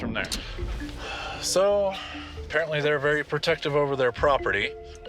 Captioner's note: sighs